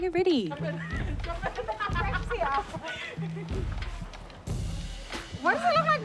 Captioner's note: laughs